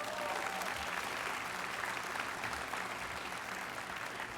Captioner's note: applause